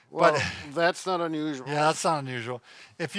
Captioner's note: laughing